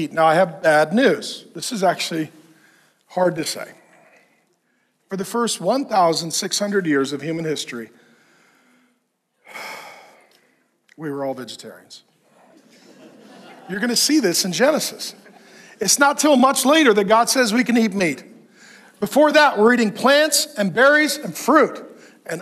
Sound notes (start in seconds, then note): 8.0 exhales sharply; 12.2 congregation laughing